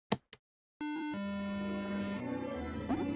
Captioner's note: error noise